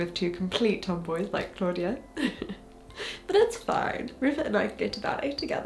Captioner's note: chuckles